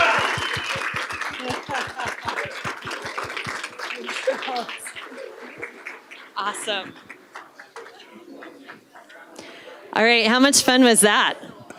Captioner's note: applause